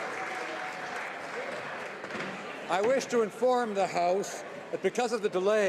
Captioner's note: applause